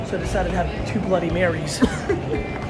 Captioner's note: chuckles